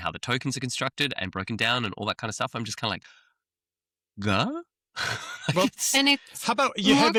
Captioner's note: laughs